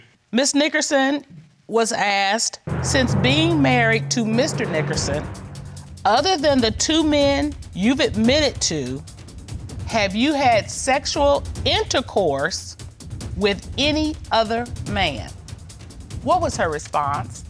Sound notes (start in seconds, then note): none